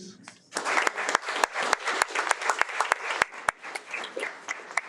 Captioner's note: audience applauding